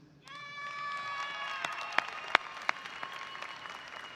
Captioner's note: audience applauding